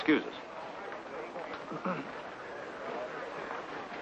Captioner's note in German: Männer lachen